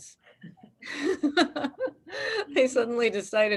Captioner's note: laughs